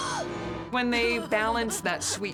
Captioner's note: gasps